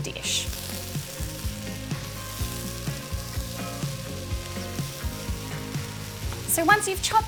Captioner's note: sizzling